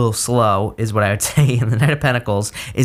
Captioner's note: giggles